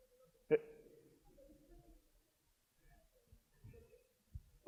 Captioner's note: laughs